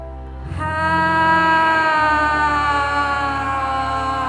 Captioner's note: all sigh loudly